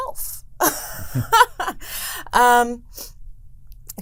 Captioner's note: laughs